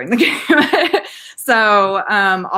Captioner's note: laughing